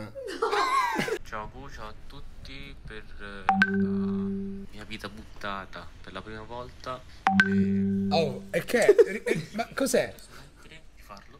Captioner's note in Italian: suoni telefonici